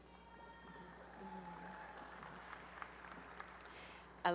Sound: applause and cheering

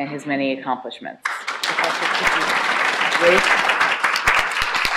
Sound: applause

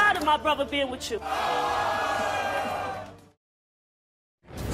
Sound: audience boos

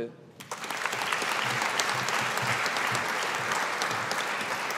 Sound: audience applauding

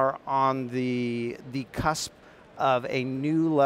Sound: none

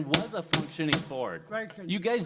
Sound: gavel banging

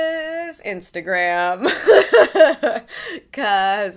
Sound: laughs

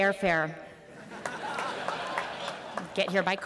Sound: laughter

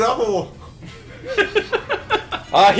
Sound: chuckles

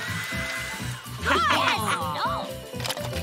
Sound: chuckles

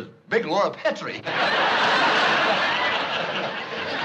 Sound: laughter

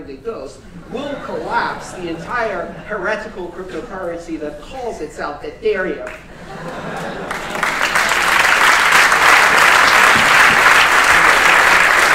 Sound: laughter; applause

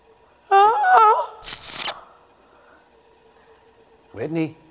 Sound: TV static plays

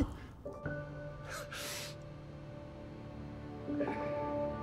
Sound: Nick Cage sniffing

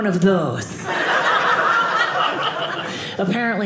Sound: audience laughing

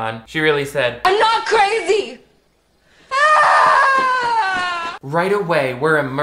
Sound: screaming

